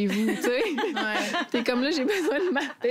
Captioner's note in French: rires